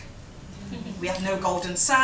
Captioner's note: chuckles